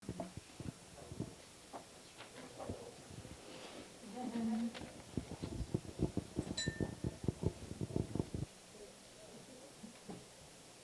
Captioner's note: background chatter